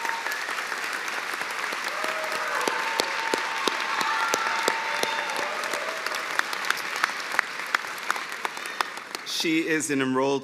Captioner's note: cheers and applause